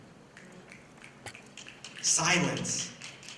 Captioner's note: snapping